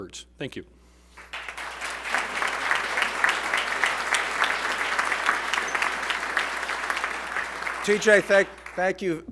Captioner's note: applause